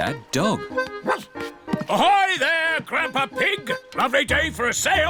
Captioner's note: barks